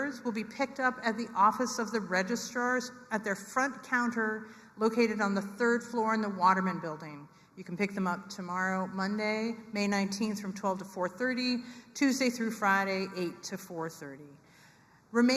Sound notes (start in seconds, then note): none